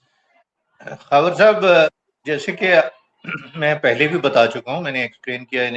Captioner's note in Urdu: گلا صاف کرتا ہے